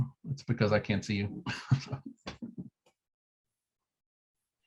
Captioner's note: chuckles